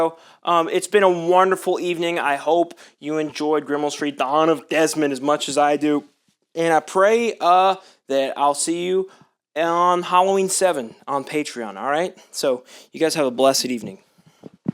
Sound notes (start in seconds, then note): none